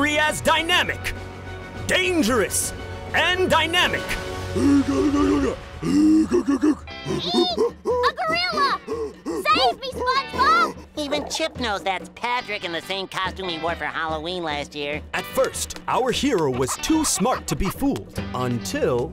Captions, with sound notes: as dynamic, dangerous and dynamic. [groaning] Eek! A gorilla! Save me, SpongeBob! Even Chip knows that Patrick in the same costume he wore for Halloween last year. At first, our hero was too smart to be fooled until...